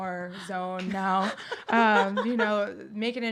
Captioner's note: laughs